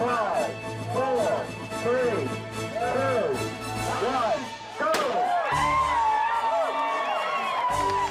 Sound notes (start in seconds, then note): 4.2 crowd cheers; 4.9 pistol fired